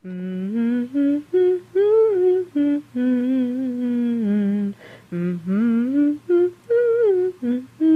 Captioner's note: lady humming